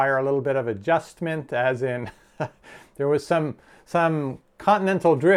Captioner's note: laughs